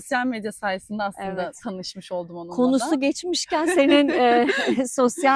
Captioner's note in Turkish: kahkaha